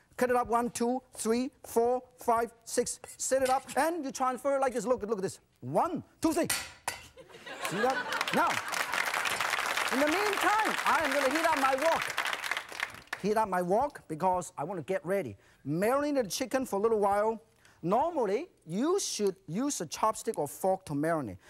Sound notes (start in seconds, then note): 7.2 laughs; 7.3 crowd; 7.6 applauds